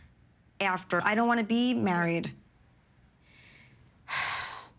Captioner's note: sighs